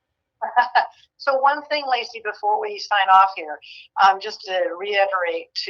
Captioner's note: laughs